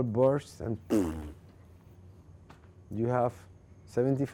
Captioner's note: making bursting noise